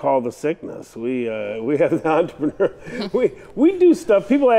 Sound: laughs

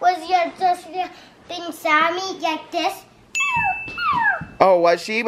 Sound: whimpers

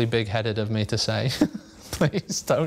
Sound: laughter

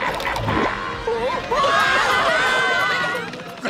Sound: cackling; screaming

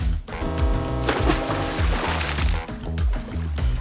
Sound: upbeat music; boat horn blaring; water splashing; upbeat music

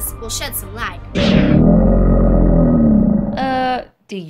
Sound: alligator snarls

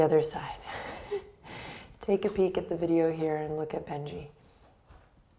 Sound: chuckles

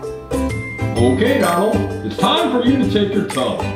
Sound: voiceover

